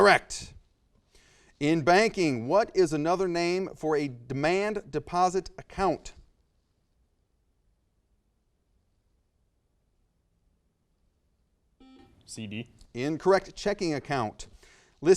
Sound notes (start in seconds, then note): 11.8 buzzer noise